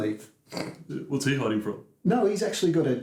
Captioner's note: snorts